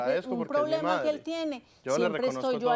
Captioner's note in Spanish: Hablan al unísono